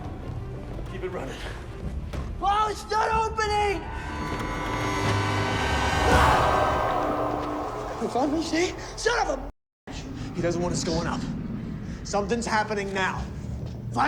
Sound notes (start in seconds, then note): 5.0 sinister music; 5.6 Simon screams